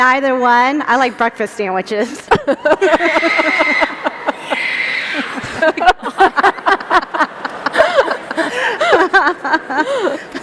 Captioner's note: laughter